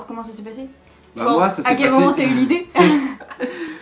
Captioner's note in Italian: ridere